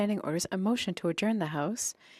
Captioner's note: speaking in French